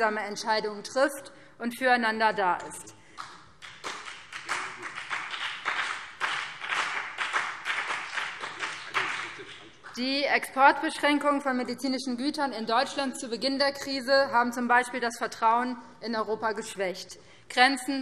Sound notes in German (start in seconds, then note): 3.6 Beifall BÜNDNIS 90/DIE GRÜNEN und vereinzelt CDU